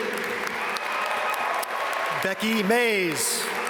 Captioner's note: audience cheer and applaud